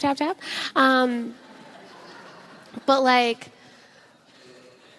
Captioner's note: audience laughs